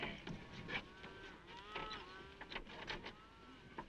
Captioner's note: cows mooing